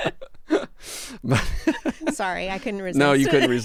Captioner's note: laughing